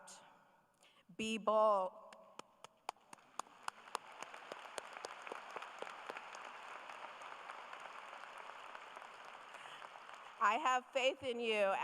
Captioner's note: applause